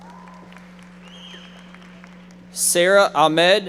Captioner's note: audience members applauding